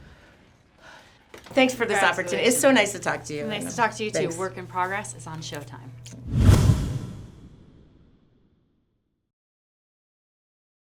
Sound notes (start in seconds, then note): 0.1 Abby gasps; 6.2 logo swooshes